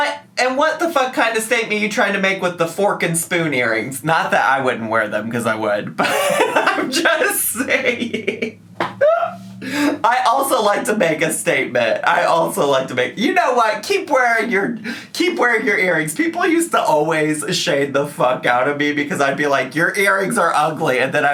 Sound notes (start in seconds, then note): 8.6 man laughing